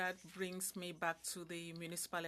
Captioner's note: speaking in French